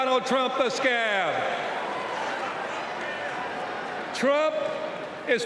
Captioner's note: cheers and applause